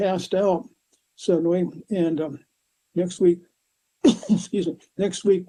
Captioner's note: coughs